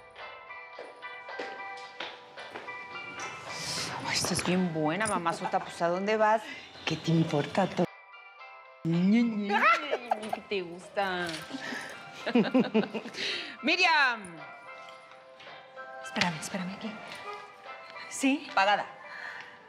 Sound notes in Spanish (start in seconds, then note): 10.4 risas